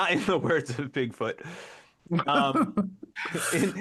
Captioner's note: laughter